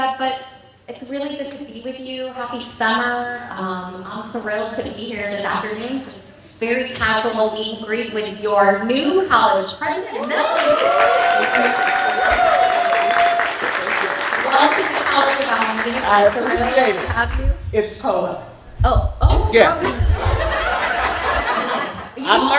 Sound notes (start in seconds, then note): 16.4 cheers, applause; 22.3 laughter